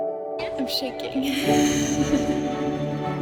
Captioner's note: chuckles; mellow orchestra music